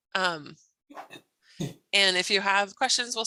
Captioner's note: clears throat